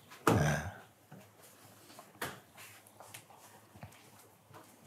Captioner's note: Schweigen